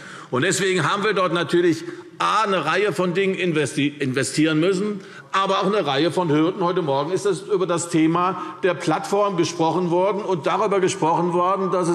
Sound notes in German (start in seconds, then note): none